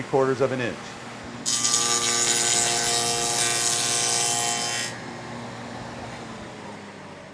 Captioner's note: saw Noise